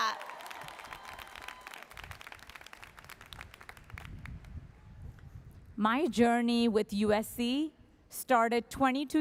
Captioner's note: applause